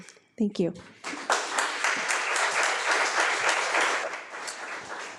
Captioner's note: audience applauding